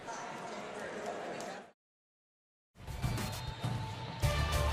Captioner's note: pa announcement